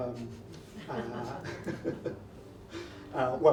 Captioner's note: laughs